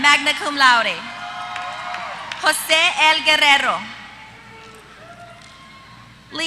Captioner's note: applause